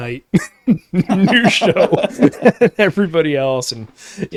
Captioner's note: laughing